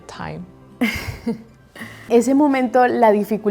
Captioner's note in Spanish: Risas